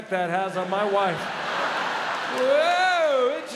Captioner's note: crowd laughs